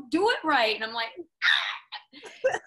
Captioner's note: shrieks; laughs